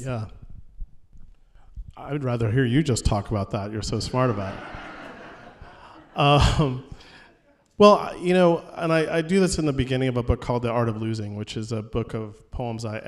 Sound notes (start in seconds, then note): 4.0 laughter